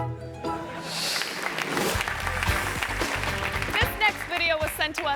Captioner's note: audience laughing; audience applauding